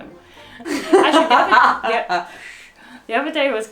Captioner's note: laughs